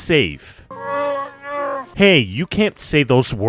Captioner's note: mala growling